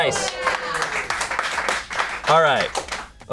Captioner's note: audience applauding